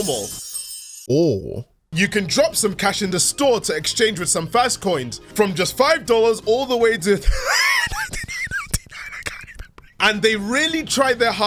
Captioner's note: wheezing